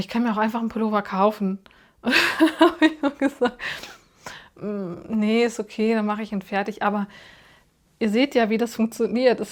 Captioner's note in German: gelächter